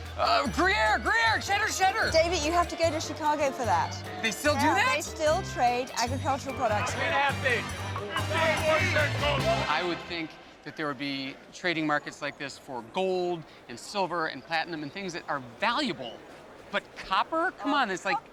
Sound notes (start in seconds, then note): 7.4 shouting